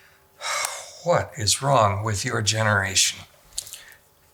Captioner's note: sighs